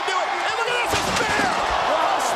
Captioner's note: crowd cheering